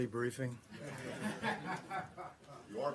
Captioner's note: laughter